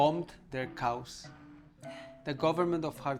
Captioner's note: sighs deeply